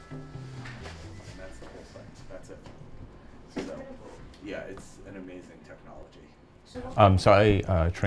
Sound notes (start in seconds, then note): 1.1 footsteps, people talking